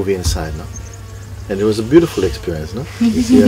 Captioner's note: chuckling from the group